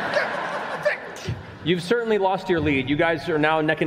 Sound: laughter

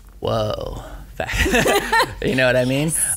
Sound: laughing

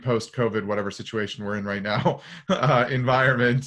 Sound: giggles

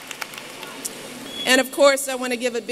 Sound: applause

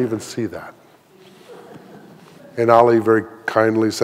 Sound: audience laughing

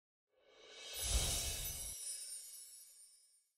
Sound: air whooshing

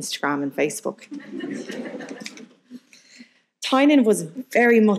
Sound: audience laughing

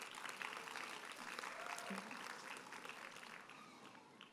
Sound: audience applauds

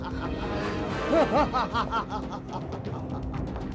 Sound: laughs

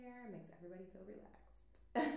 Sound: laughs

